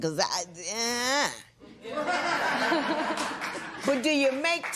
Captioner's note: laughter